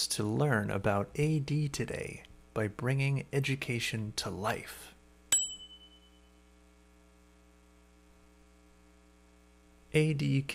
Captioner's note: bell rings